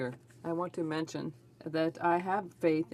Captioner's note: speaking French